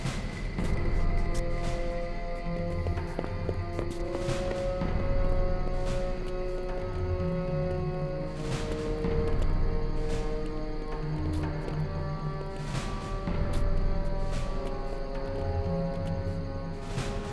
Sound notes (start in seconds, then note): 2.8 footsteps tapping against concrete; 7.7 suspenseful music